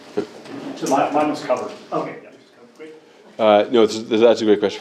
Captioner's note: man speaking